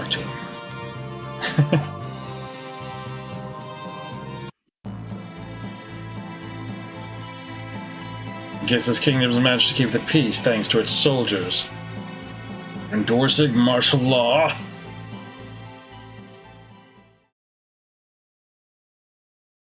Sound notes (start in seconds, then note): 1.4 chuckles